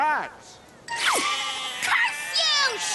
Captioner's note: bleating